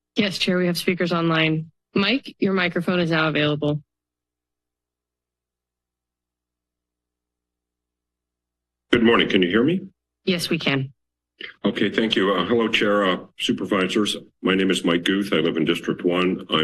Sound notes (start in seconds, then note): 4.2 silence